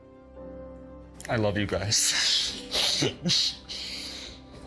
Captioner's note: chuckling